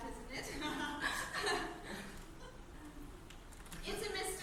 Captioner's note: laughs nervously